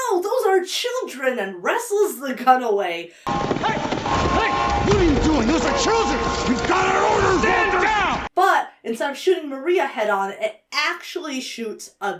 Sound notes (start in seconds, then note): 3.2 alarms blaring